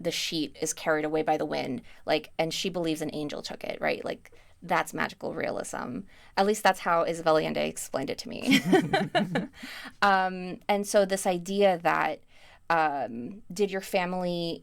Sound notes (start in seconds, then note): 8.5 laughs